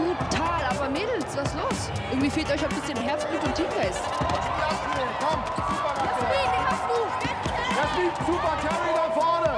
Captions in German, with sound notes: Aber Mädels, was ist los? Irgendwie fehlt euch Herzblut und Teamgeist. (Jubel) Jasmin, den hast du. - Jasmin, super, nach vorne.